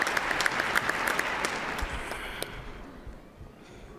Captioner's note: cheers and applause